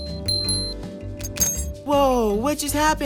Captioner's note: bell ringing